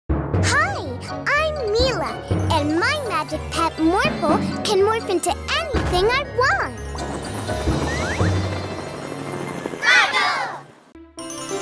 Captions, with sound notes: Hi, I’m MIla! And my magic pet Morphle can morph into anything I want! [kids shout] Morphle!